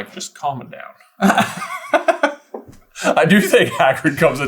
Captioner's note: laughter